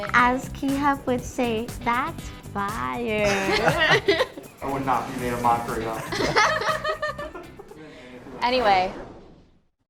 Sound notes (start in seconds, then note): 3.2 all laughs; 6.0 all laughs